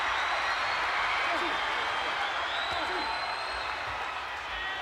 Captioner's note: audience cheers